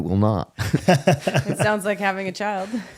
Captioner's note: laughing